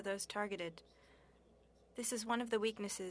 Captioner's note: speaking french